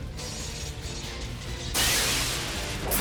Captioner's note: suspenseful music; electricity crackles